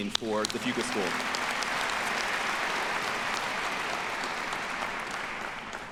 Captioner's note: audience applauding